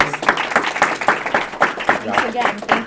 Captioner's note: audience applauding